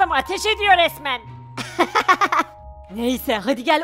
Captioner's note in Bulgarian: Смях